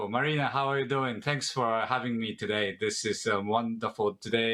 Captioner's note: speaking in native tongue